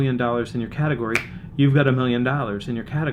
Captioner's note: snaps fingers